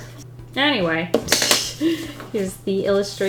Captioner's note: laughs